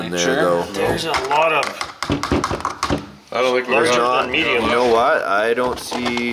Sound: plastic bangs on tray

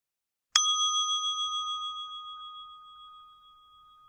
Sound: gently chiming bell

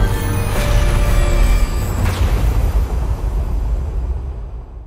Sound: suspenseful music; lightning strikes

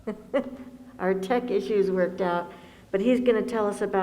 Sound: laughs

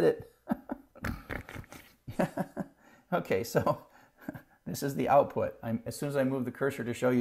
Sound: laugh

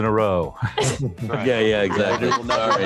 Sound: scattered laughter

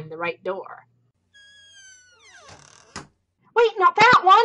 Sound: door creaks close

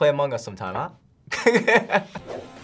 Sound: laughs

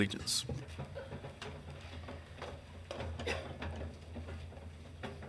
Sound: chairs scratching

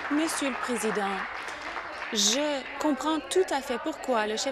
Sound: applause

